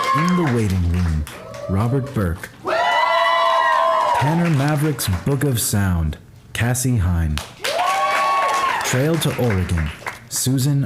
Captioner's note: applause